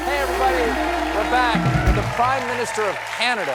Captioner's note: cheers and applause